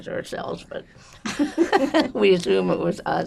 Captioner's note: laughing